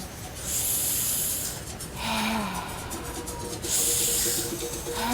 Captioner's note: heavy, rhythmic breathing